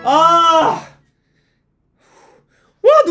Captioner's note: choked up